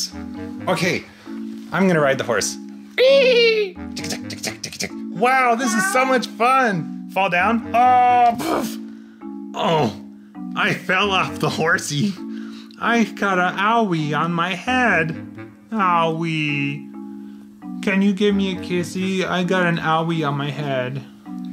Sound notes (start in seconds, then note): 2.8 neighing; 4.0 chattering; 9.6 grumbles